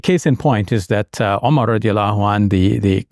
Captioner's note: speaks in Arabic language